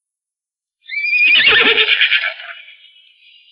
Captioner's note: horse neighs